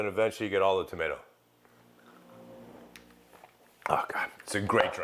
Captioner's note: sipping, sighing